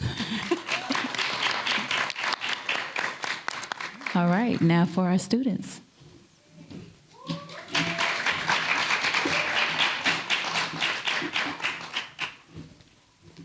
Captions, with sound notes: COMMISSIONER CURTIS RICHARDSON HAS JOINED US. WILL YOU PLEASE STAND AND BE RECOGNIZEDSOME. [APPLAUSE]ALL RIGHT. NOW FOR OUR STUDENTS.